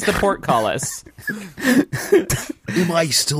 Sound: laughing

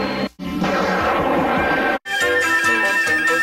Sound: cartoon music playing as lightning strikes; lightning strikes; cartoon music plays

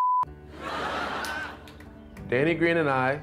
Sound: crowd laughing

